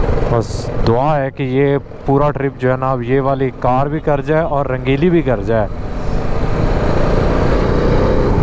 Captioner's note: motorcycle